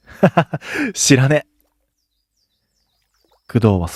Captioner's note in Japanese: 笑い